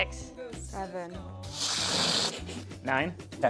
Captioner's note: fart Sound